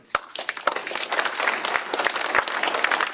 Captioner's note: applause